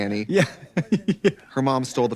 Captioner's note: laughing